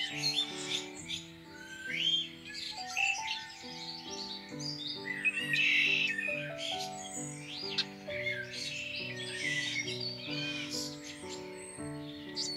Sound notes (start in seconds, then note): 5.3 robins and red winged blackbirds sing